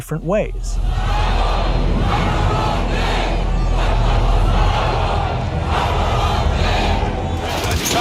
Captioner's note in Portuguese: gritos das pessoas protestando